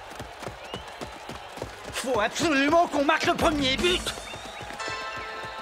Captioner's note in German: beifall